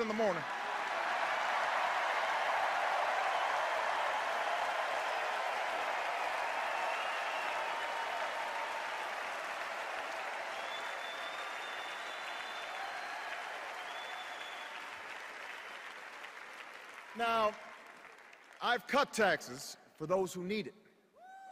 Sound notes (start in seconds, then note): 2.8 extended cheers and applause